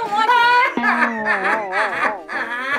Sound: sobbing

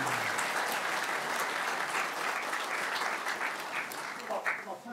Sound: applause continues

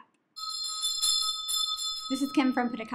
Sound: bell ringing

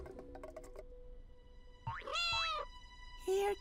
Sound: meowing

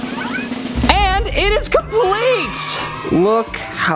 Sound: drum beats; cheers

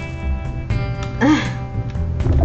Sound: groan

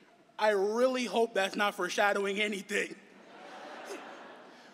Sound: laughter

